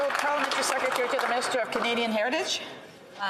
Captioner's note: some Applause